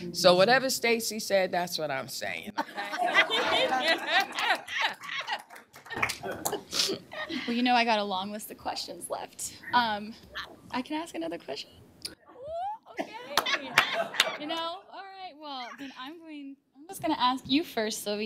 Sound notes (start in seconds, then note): 2.5 laughter